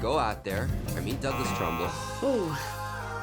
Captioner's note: buzzer